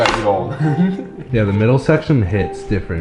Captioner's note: chuckles